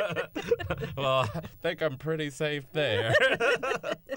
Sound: laughter

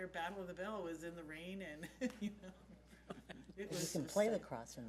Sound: laughs

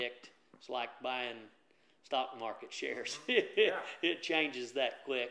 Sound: laughs

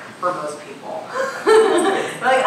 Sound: laughing

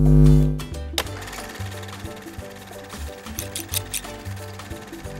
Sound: sewing machine grinding

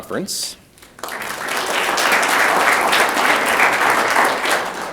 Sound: audience clapping

